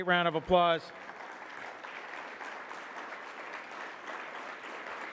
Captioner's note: audience clapping